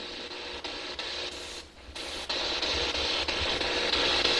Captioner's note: static buzzing